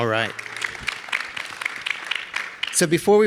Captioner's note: audience applauding